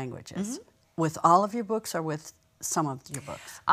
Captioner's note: sound of acknowledgement